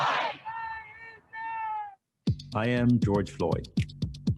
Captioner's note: crowd